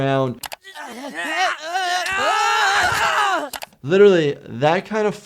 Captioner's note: Timmy and Jimmy grunt and thud